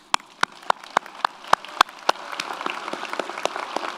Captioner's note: audience applauds